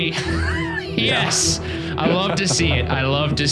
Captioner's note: laughing